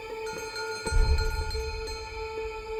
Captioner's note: distant bell